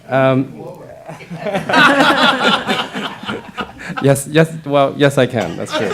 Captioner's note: laughter